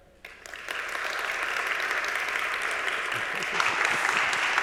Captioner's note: audience applauding